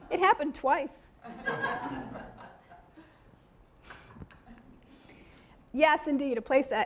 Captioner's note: audience laughing